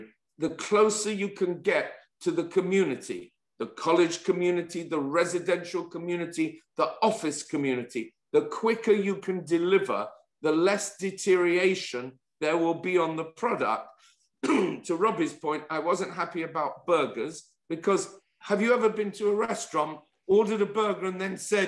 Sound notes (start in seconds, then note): 14.4 cough